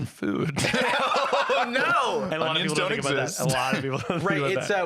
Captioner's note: laughing